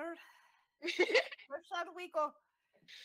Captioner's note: laughs